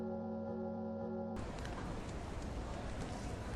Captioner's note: bells stop; city noise, in the background